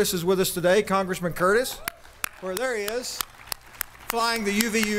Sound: applause

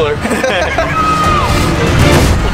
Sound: intense music; laughs

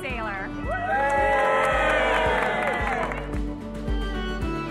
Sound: cheering; lively music

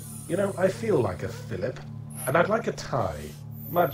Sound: voiceover

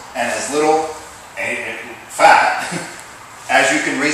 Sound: laugh

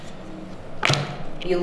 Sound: slap

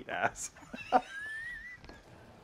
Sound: group wheezing

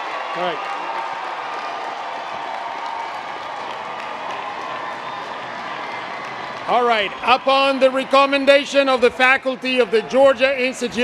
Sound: cheers and applause

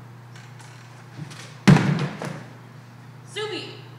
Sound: book thuds

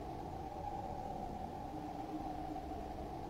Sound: wind whistling

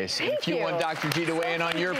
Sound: audience applauding

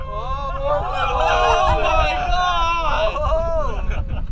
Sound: crowd cheering; crowd gasping; crowd laughing

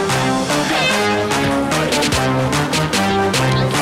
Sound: upbeat rap music; air horn blows; upbeat rap music

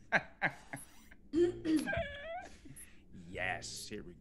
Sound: laugh

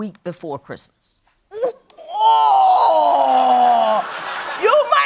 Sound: groaning

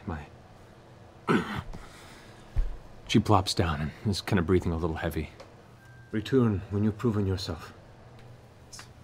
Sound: pained grunt

